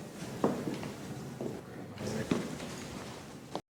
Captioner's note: footsteps